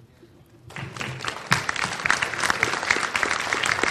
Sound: applause

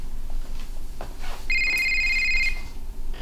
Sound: ringing

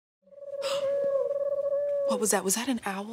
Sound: bird chirping

